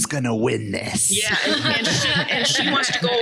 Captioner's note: all laugh